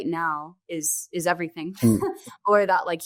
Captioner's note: laughing